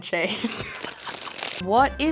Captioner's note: laughs